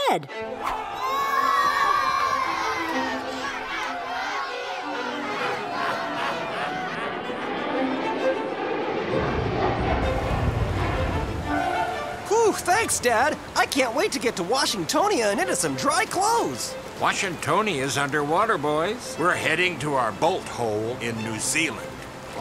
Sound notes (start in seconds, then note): 0.2 suspenseful music; 0.4 crowd feasting; 5.2 evil laughter; 6.9 plane roaring